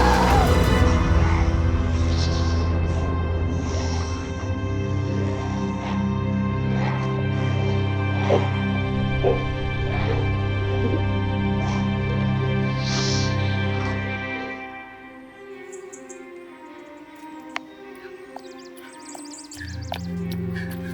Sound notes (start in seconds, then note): 0.2 dramatic music; 3.2 snakes hissing; 7.1 dramatic music; 10.9 snakes hissing; 14.5 dramatic music; 17.8 birds chirping; 20.7 gentle upbeat music